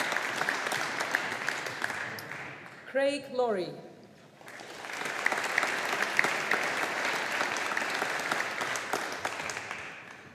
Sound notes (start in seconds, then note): 4.4 audience applauding